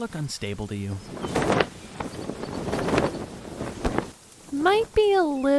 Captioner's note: tent flying away in wind